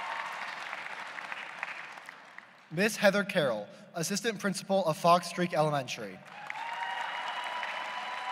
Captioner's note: applause